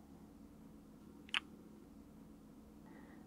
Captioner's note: kiss